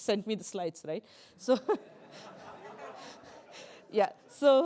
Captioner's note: laughter